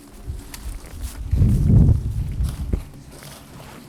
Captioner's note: wind intensifies